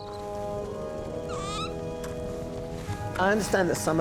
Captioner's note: owl screeches